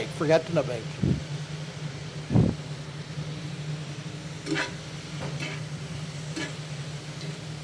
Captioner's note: skillet sizzling continues; utensil scraping continues